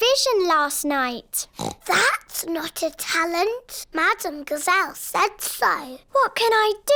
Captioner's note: oinks